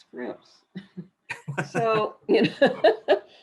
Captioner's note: laughter